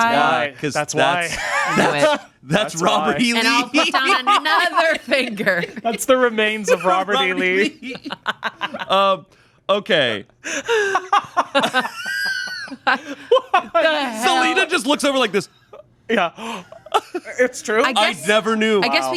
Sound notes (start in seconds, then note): 8.2 laughing; 12.2 chuckling